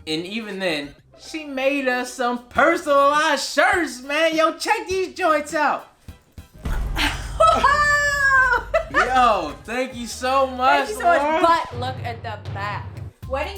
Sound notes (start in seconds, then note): 6.5 thuds; 6.8 laughs